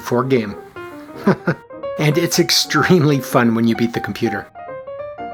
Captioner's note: chuckles